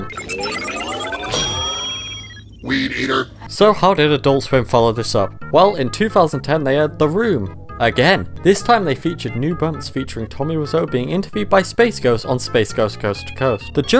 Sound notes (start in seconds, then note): 0.0 beeping; 1.3 ding